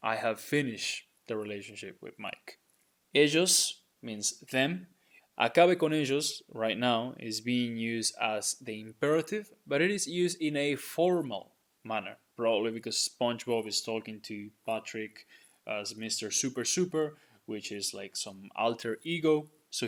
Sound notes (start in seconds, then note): 3.2 speaking in Spanish